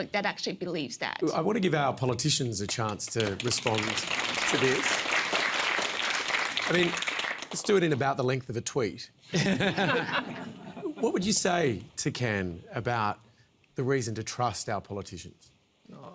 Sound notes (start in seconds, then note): 5.3 applause; 9.3 laughter